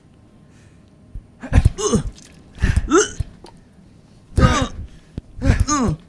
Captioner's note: dull thuds, painter groaning,</b> <b>blood squirting